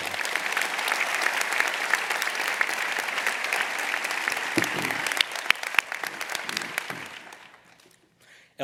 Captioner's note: applause